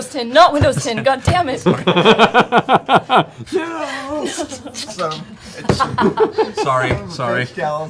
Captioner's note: laughter